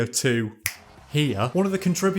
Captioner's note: click